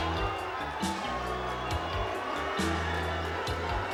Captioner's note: mixed crowd reaction; crowd chanting "USA!"